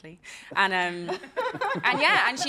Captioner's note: laughs